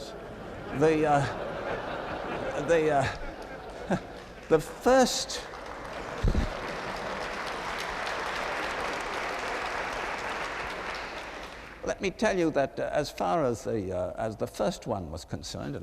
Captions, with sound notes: They-- the first-- [APPLAUSE] Let me tell you that as far as the first one was concerned--